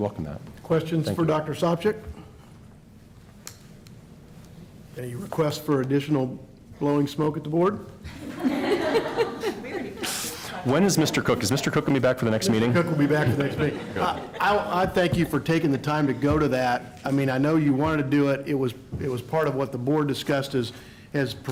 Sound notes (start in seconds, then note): 8.1 laughter